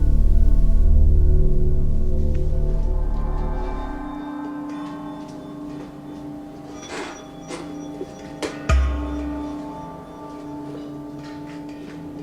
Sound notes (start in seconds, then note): 7.0 object rustling; 8.8 object thuds